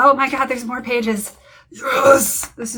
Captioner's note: data gremlin growl